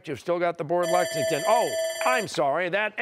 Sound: bell ringing

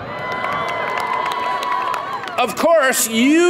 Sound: audience applauds

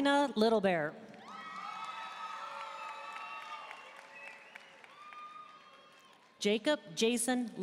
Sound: audience cheering and applauding

